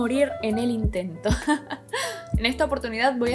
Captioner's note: very formal laugh